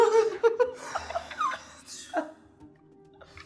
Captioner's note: laughing